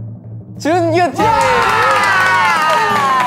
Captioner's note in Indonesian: Tepuk tangan